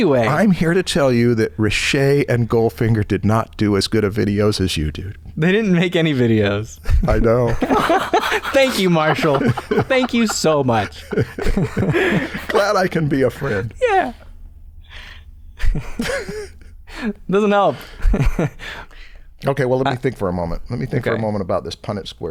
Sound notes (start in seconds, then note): 6.8 laughter